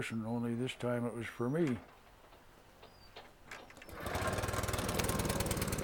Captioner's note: wood splitter starting